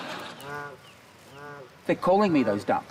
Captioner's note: ducks quack